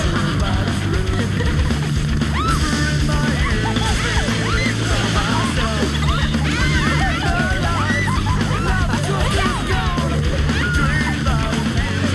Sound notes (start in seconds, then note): 1.5 group laughs; 1.5 squealing